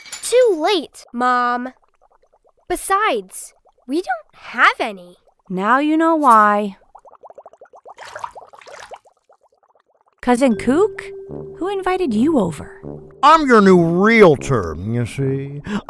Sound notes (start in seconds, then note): 0.0 dishes crashing; 7.4 bubbling cauldron sounds